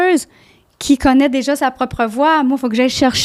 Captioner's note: in french